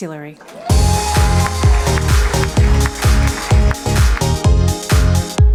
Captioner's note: applause and music